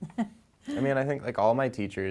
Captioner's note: soft chuckle